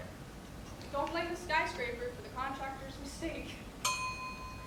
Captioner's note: ding